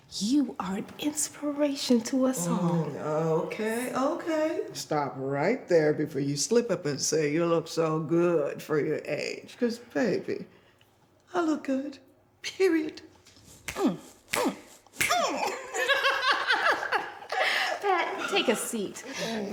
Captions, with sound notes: You are an inspiration to us all. Okay, okay, stop right there before you slip up and say you look so good for your age. Because, baby, I look good, period. [snapping fingers] [laughing] Pat, take a seat.